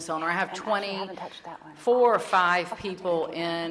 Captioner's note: chattering off mic